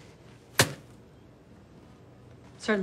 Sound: thud

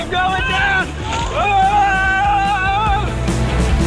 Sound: yelling; upbeat music

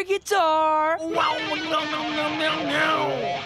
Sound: imitating guitar noises

